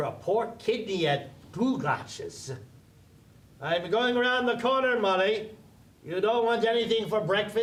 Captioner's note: shouting up the stairs